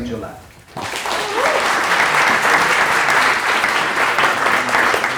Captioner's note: audience applauds